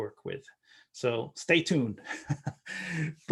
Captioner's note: chuckling